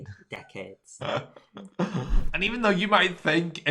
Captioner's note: laughs